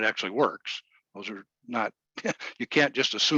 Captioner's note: laughing